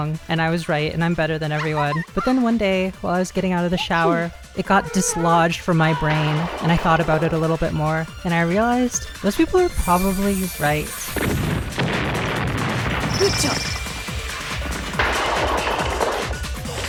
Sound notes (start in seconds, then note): 4.7 squeak; 5.8 anguished scream; 6.0 wood crashing; 11.1 gunshot; 11.1 explosion; 13.1 shimmer